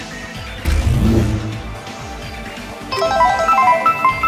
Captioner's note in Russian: Бззззззз